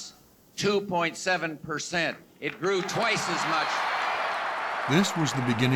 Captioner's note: cheers and applause